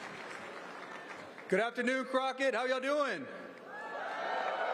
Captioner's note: applause